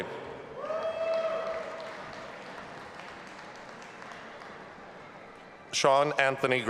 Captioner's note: audience applauding and cheering